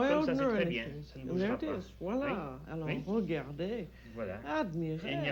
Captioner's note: speaking French